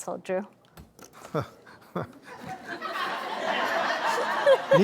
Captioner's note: laughter